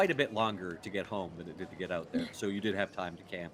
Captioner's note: Calla chuckles